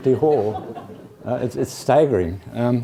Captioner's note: laugh